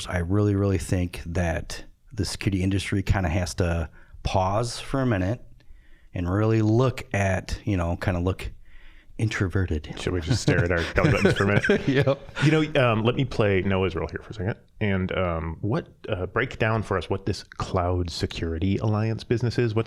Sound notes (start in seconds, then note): 10.1 laughing